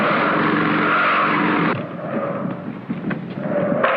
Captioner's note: tires screeching; gunshots